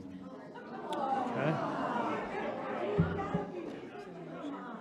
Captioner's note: audience groans